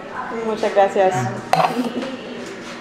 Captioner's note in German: auf Spanisch